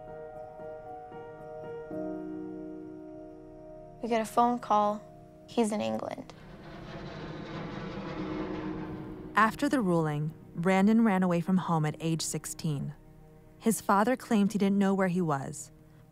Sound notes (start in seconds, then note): 6.3 plane hums